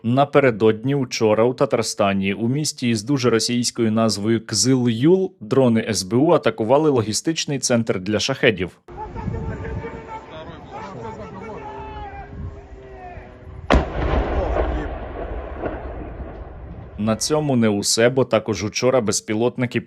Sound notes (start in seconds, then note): 8.7 shouting; 13.6 explosion